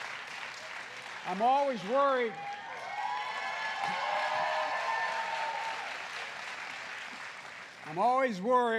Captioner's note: applause